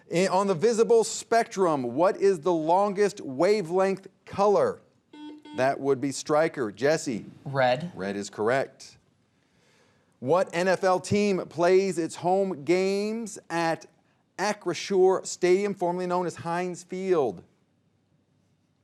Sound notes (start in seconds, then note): 5.1 buzzer beeping